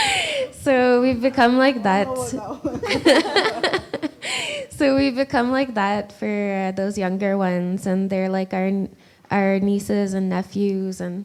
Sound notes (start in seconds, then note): 2.0 laughs